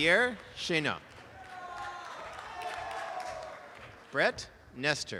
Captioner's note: applause and cheering